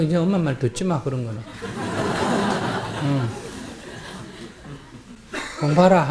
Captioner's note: audience Laughter